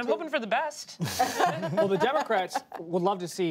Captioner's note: laughter